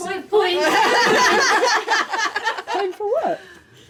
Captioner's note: laughing